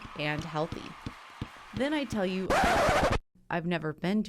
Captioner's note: record scratching